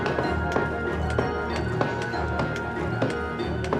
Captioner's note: hammers banging